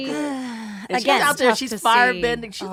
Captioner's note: sighing